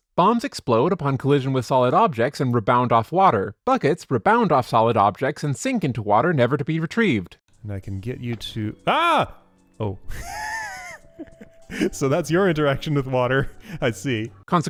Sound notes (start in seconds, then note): 10.1 laughs